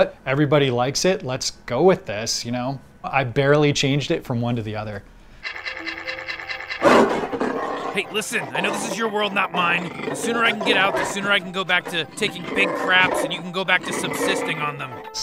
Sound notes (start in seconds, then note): 5.5 roars; 5.5 scratching sound